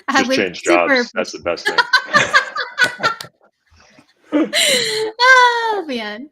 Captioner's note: laughing